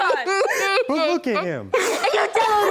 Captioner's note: sobbing